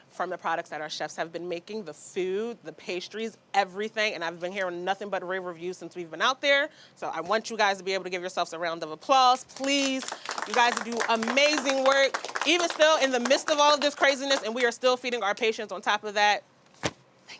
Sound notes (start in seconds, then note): 9.3 group applauds